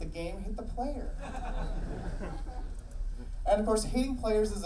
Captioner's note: audience laughing